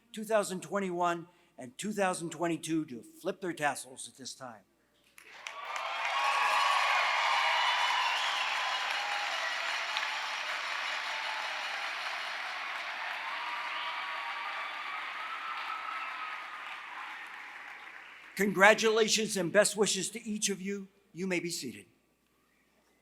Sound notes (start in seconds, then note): 5.2 applause